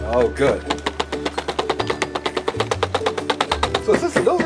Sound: hammer bangs

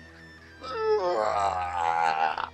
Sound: groans

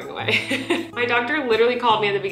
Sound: laughing

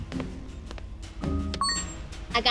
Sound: beeping

